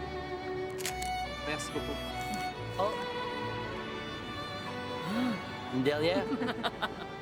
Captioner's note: camera clicks; photographer speaks French; Louise laughs